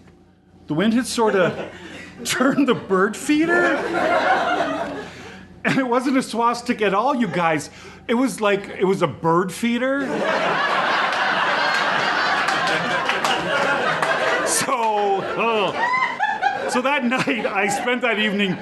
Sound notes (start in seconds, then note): 10.0 audience laughs